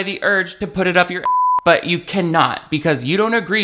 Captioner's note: beep